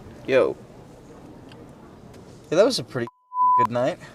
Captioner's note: beep